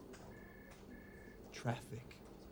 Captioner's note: none